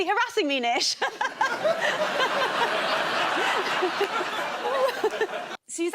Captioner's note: laughter